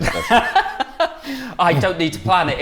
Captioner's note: laughs